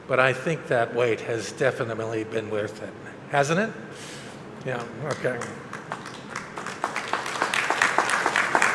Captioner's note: applause